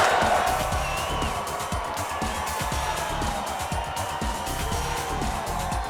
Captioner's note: audience cheering; upbeat music